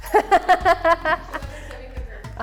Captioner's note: laughs